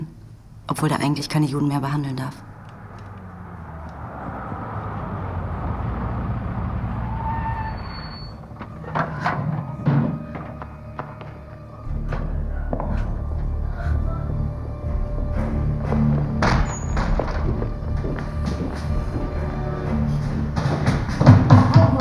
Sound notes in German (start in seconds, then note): 2.6 Autogeräusche; 7.7 Türschlagen; 10.5 Schritte und Musik; 20.8 Klopfen